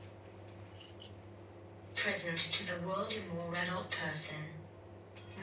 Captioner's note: none